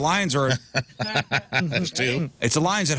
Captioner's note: laughing